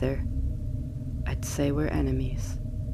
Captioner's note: none